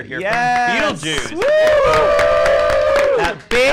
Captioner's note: all cheering and clapping